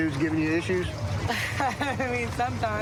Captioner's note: laughs